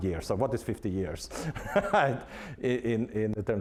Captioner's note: laughing